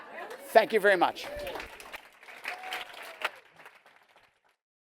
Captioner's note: applause